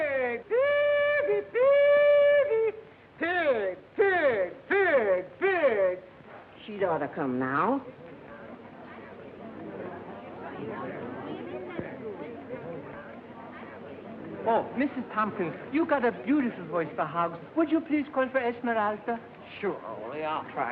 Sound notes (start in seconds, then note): 0.0 hollering; 8.4 chatter